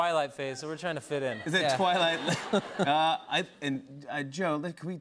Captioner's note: laughter